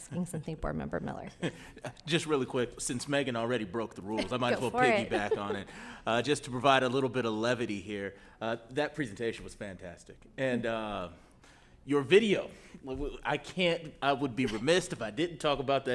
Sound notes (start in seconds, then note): 2.1 laughs; 4.2 audience chuckles